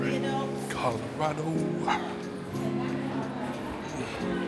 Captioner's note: children chattering